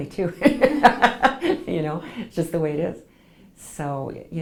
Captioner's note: laughs